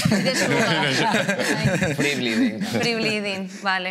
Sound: laughter

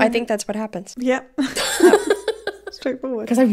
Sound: laughing

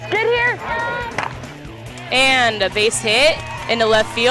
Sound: bat cracking

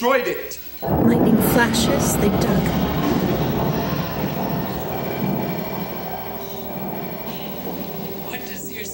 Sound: thunder

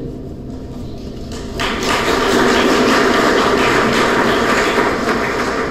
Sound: applause

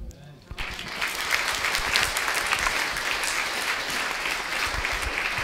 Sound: applause

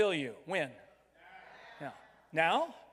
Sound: crowd

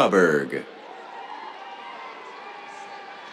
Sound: cheers

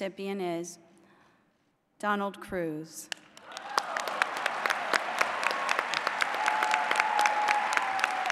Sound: applause

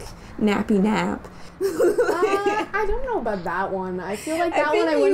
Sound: laughter

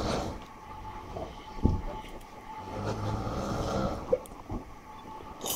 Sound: loud snoring

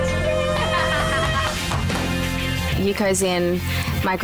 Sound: laughs

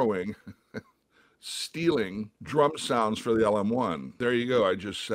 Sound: laughter

